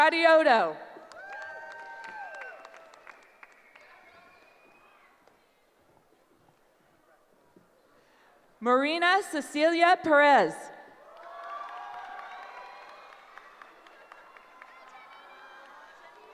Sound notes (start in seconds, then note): 1.0 cheering; 11.0 cheering